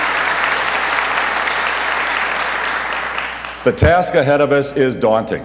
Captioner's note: applause